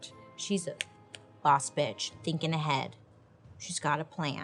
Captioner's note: fingers snap